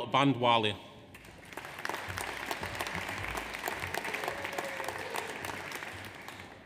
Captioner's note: audience applauds; audience cheers